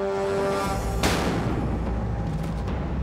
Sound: gun fires

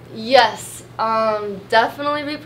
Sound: none

